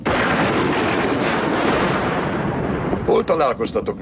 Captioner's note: thunder claps